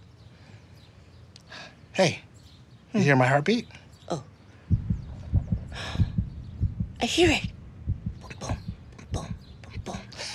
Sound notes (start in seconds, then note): 4.7 heart beating; 5.6 gasps; 10.1 laughs